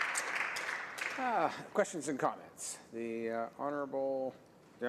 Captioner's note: some Applause